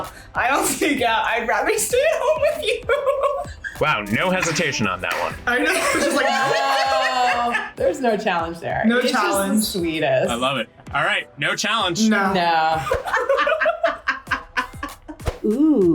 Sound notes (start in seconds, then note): 2.0 laughs; 12.1 both laugh